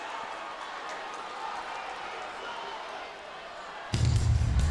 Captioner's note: audience chattering; upbeat music; audience cheering